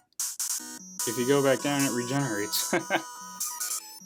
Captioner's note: laughs